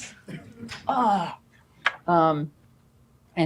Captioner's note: groans